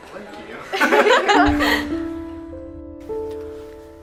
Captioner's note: laughter